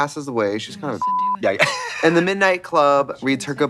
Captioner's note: beep; wheezes